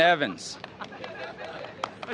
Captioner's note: applause